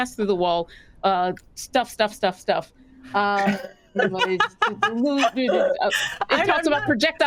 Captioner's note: cast members laughing